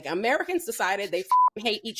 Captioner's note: beep